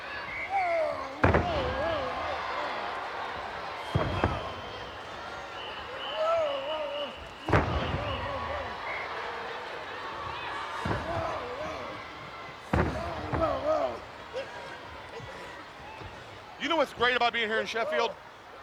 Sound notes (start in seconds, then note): 0.2 wrestlers grunting